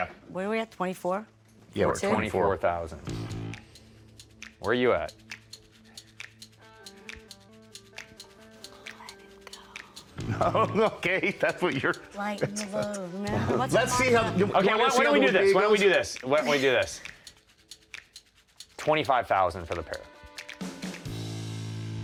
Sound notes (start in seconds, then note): 5.5 tense music playing; 8.4 whispers; 10.2 laughs